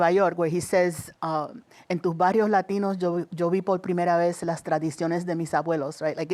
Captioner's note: speaking Spanish